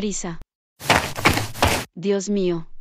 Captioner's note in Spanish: FX - Footsteps - On Multiple Dirt - Run